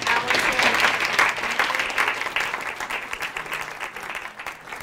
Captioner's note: audience applause